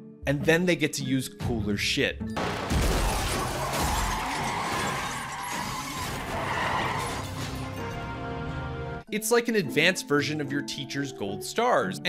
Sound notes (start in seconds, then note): 2.4 cars crashing; 3.2 tires screeching